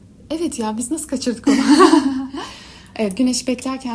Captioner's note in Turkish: kahkaha